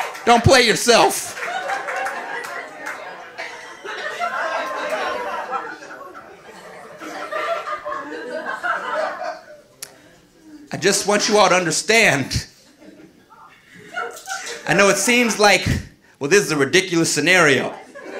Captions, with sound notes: Don't play yourself. (audience laughing) I just want you all to understand. (audience laughing) I know it seems like, "Well, this is a ridiculous scenario,"